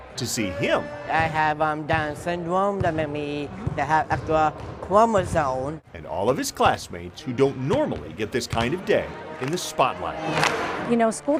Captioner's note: dribbling